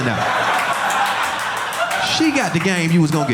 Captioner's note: audience laughing